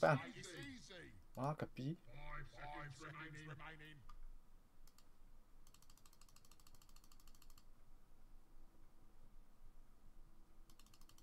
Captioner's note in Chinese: 喝彩